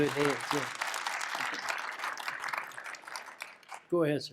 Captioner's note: applause